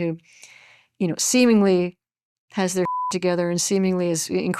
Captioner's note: beep